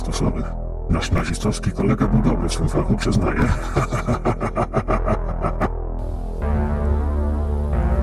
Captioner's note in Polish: śmiech